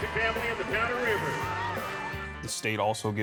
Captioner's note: crowd cheers